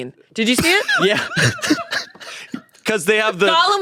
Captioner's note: everyone laughs